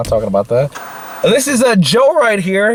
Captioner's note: TV Static